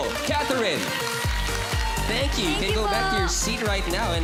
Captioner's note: audience applauding